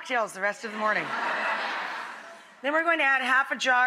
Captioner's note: audience laughing